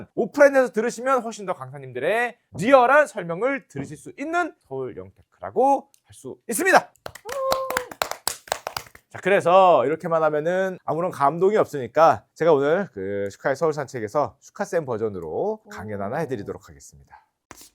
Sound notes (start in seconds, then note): 7.2 cheering